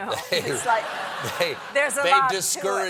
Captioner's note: laughter